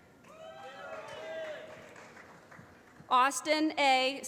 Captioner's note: applause